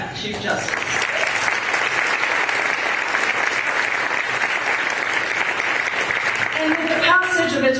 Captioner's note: applause